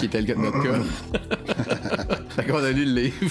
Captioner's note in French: rires